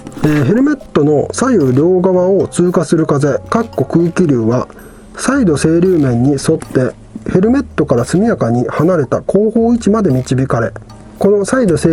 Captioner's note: air flow